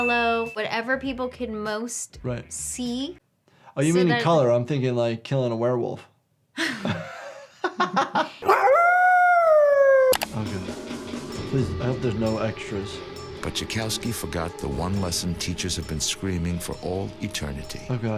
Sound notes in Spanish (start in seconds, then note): 6.6 Ambos riendo; 8.4 lobo aullando